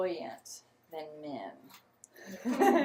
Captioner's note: laughter